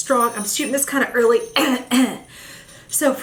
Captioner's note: coughing